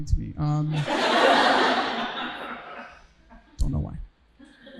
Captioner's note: audience laughing